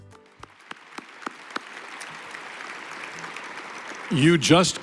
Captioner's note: applause